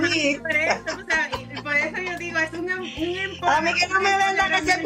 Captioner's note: laughs